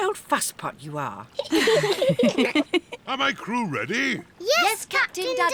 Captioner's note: all giggle